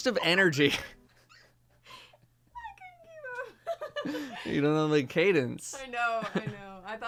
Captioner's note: laughs